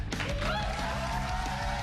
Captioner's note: cheers and applause